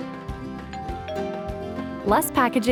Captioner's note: doorbell ringing